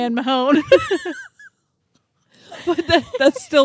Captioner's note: both laugh